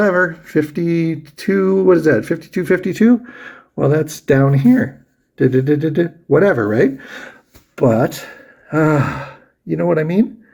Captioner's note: sighs